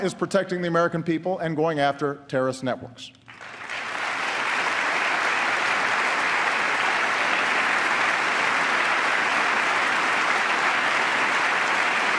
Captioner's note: applause